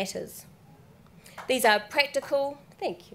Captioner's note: one person claps